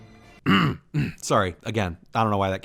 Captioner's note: clears throat